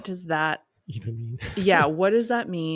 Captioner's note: chuckles